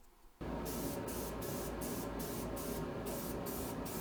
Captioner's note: spray hisses